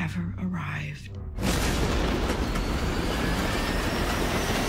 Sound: loud banging

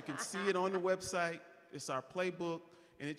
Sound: laughing

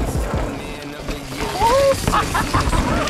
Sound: laughing

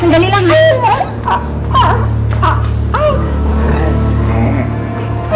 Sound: Emman mimicking dog noises

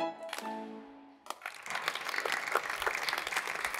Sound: applause

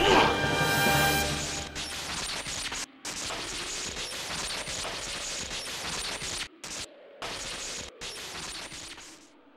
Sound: electricity crackling

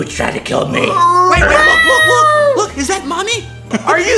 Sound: cats and dogs in agony; childish voice

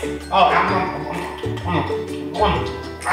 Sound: munching

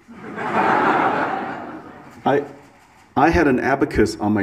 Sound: audience laughs

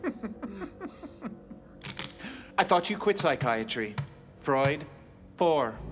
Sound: laughs

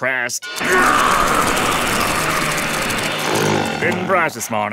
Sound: growling

